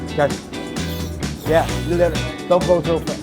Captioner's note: air hissing